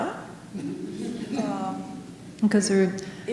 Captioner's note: audience laughing